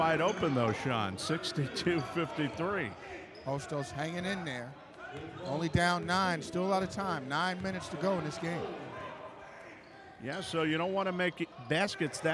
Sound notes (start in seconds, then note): 9.2 yelling